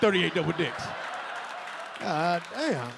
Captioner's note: audience laughing